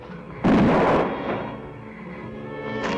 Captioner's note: gunshot